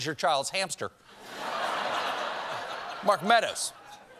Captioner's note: laughter